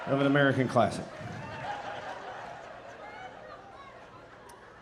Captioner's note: audience laughing